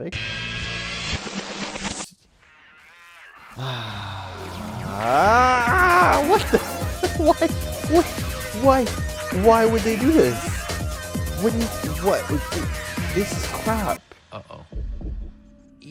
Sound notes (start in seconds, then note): 3.5 relieved sigh; 5.1 horrified scream